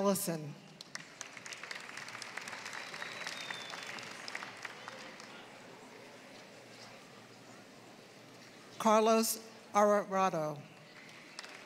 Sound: applause; applause

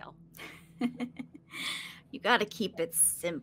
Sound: laughing

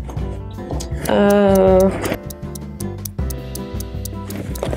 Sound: clock ticking; ambient classical music

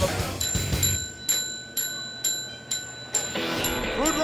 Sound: bell ringing

